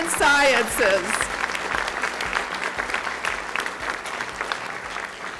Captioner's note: audience clapping